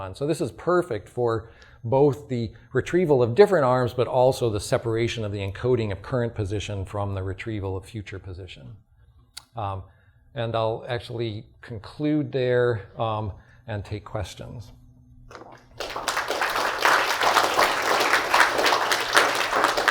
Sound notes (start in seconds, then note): 15.6 applause